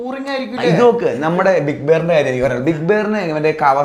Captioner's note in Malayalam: തൊണ്ട ശരിയാക്കുന്നു